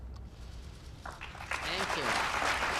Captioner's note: applause